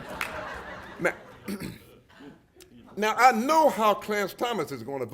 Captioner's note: laughter